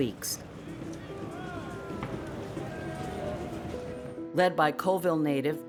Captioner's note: crowds yell